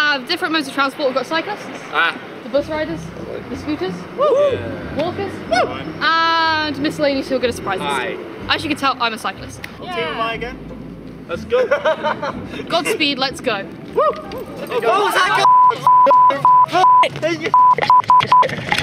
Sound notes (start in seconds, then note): 11.5 laughter; 13.9 cheering